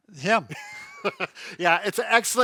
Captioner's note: laughing